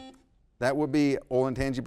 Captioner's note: buzzer buzzes